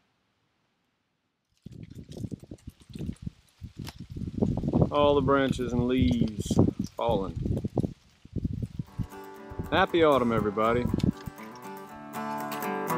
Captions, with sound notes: [wind blowing] All the branches and leaves.... falling. Happy Autumn, everybody! [Bluegrass Music]